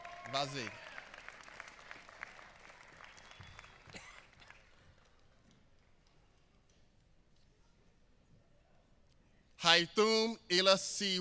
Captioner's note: applause